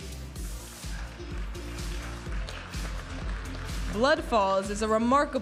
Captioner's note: audience applauding